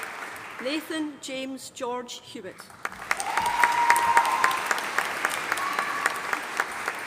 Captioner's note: audience applauding